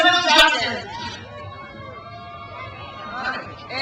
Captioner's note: crowd cheers